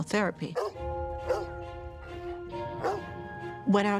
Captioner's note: dog barking